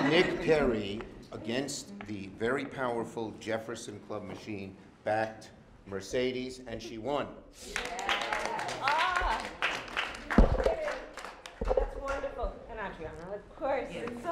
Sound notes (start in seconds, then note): 7.6 applause